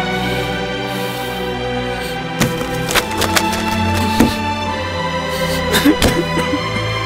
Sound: cries

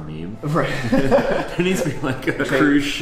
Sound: laughs

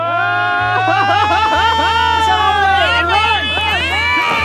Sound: cheering

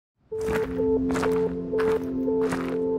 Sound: footsteps in gravel

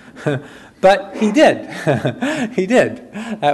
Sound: chuckles

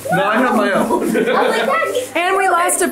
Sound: laughs

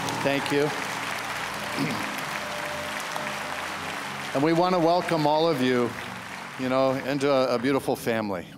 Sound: applause

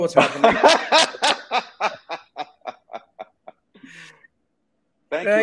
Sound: both laughing heartily

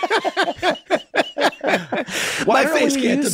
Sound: laughing; laughs

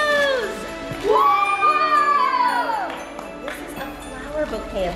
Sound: everyone cheers

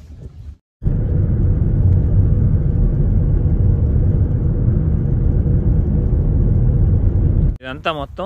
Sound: wind gushing

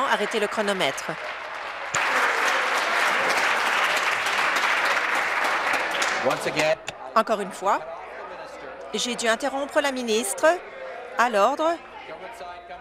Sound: applause

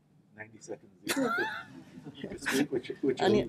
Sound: laughter

